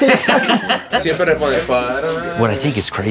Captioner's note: laughing